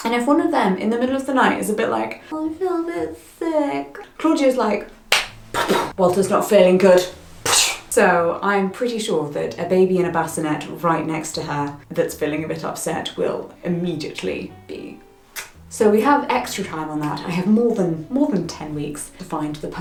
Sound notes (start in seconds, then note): 5.1 claps; 7.1 swooshes; 15.3 tongue clicks